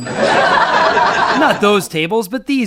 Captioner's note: laughter